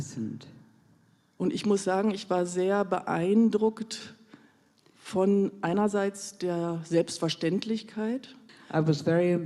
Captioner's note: in German